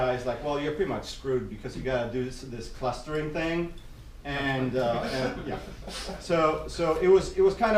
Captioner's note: laughter